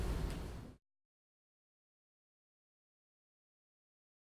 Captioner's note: silence